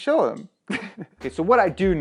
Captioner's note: chuckles